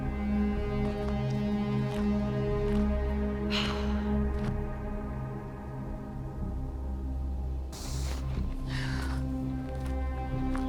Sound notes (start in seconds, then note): 3.7 Gina sighs